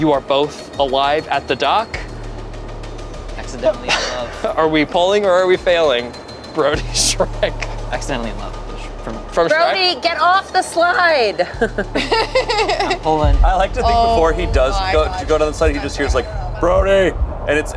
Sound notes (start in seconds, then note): 11.2 laughing